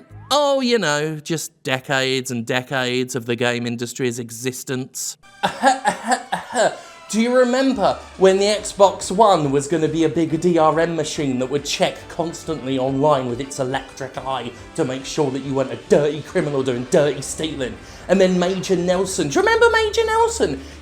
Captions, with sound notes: Oh, you know, just decades and decades of the game industry's existence. (fake coughs) Do you remember when the Xbox One was going to be a big DRM machine? That would check constantly online with its 'electric eye' to make sure that you weren't a DIRTY criminal doing DIRTY stealing. And then Major Nelson --do you remember Major Nelson?--